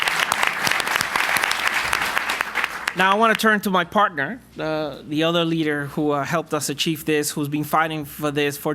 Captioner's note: aplapuse